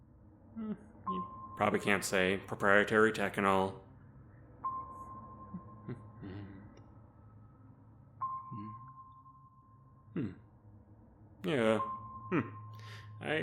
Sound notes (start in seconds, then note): 5.4 humming